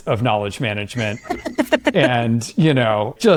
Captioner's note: laugh